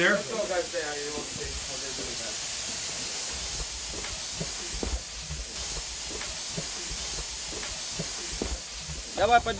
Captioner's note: pipes hissing in mine